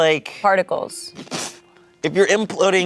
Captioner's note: imitates explosion